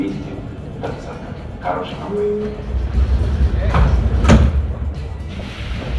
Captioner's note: closing doors